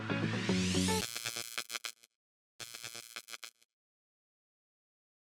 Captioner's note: upbeat music; neon light crackling